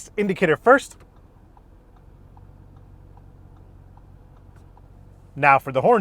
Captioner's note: indicator ticking softly